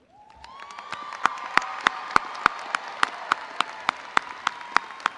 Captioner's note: crowd cheering and applauding